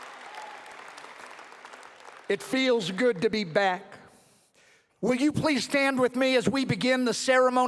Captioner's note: cheering and applause